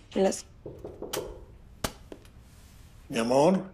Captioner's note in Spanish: Toques en la puerta